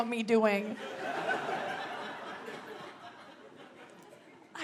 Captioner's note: audience laughs